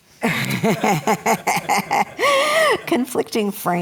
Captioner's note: laughter